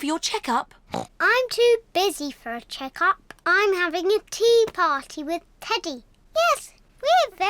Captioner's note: oinks